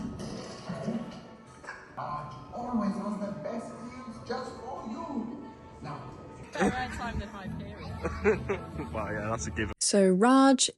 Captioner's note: talking